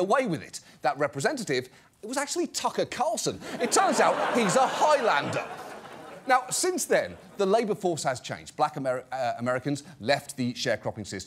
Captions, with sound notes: That representative, it was actually Tucker Carlson. -It turns out he's a Highlander. -(AUDIENCE LAUGHS) Now, since then, the labor force has changed. Black Americans left the sharecropping system